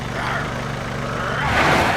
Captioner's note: growling